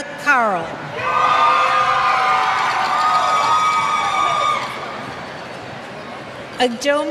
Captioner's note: cheers